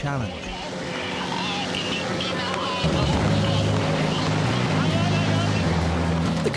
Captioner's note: motor whirring; dramatic music